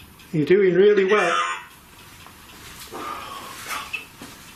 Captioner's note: Voice from Ovilus